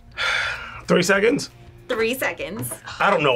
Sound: sighs

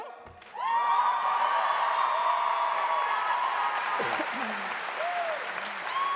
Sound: audience cheering and applauding

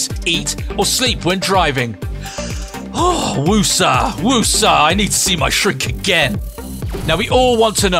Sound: sighs

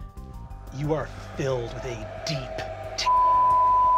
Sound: beep

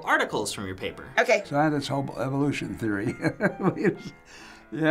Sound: chuckles

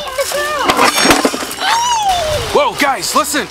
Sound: loud smack

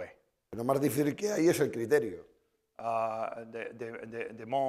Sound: speaking spanish

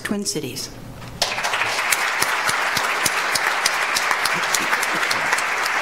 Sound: audience applauds

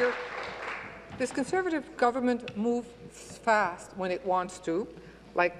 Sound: applause

